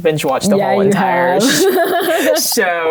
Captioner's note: laughs